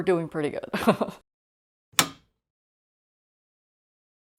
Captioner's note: light switch turning on